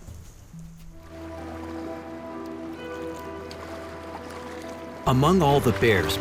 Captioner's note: water trickling; light music